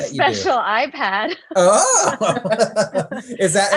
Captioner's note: both laugh